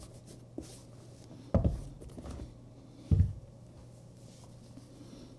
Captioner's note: shoe thumps softly